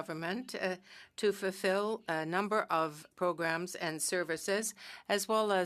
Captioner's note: speaking French